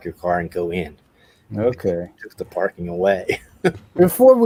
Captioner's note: laughs